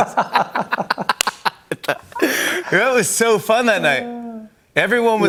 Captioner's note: laughter